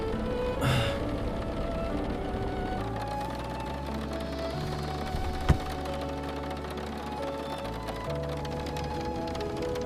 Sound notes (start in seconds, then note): 1.7 rain drumming on the truck's metal roof